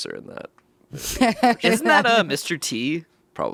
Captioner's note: laughs